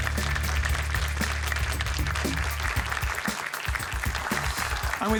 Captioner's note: applause